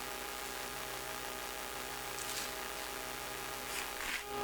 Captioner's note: scraping noise